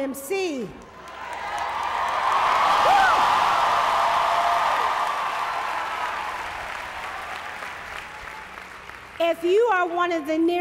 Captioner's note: applause